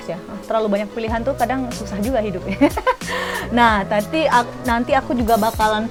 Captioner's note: laugh